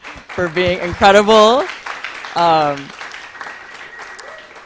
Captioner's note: applause